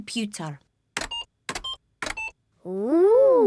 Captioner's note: computer beeping